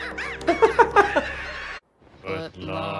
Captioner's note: laughs